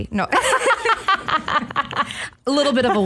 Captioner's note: laughter